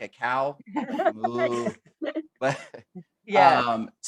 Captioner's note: laughter